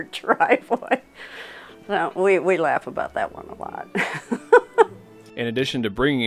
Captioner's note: laughs